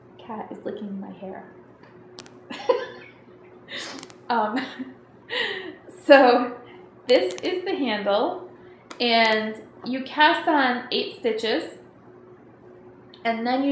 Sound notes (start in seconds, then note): 2.5 laughing